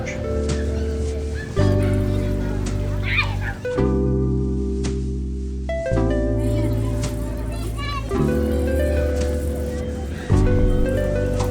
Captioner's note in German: Straßengeräusche und Kinderquieken